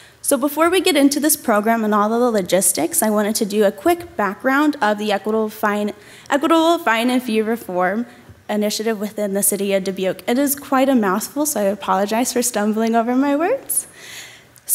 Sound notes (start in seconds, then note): none